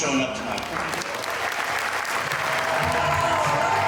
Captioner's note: supporters clapping and cheering